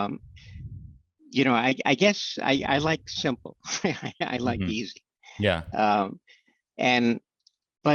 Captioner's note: chuckles